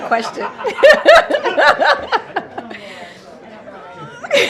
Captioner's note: laughter